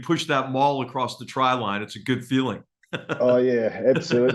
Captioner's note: laugh